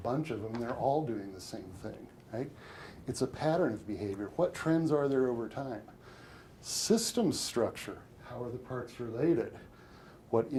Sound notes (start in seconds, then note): none